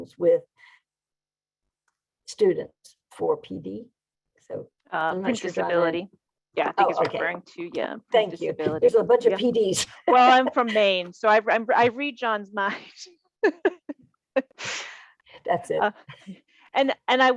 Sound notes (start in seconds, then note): 9.9 laughing; 13.6 laughing